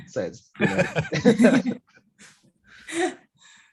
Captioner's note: group laughs